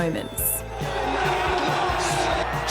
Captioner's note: cheering